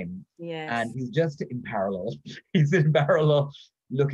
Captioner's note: laughs